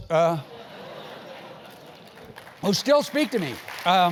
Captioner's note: laugh; applause